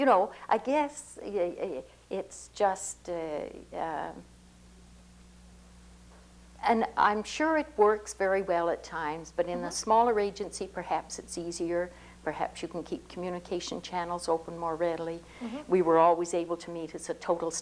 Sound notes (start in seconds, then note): 15.4 laughs